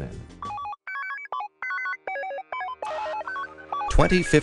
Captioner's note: beeping